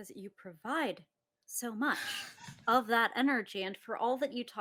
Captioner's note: laughs